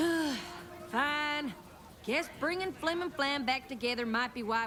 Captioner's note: sighs